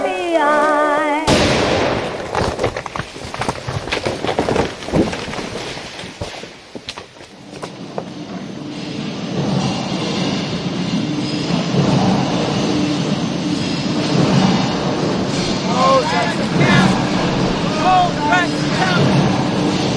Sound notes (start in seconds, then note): 1.3 explosion sounding; 3.7 logs clattering; 8.6 train rumbling